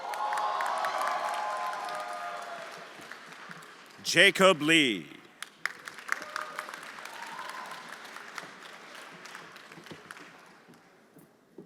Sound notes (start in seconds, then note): 0.0 everyone applauding and cheering; 5.4 everyone applauding